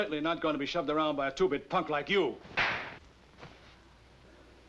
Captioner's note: slap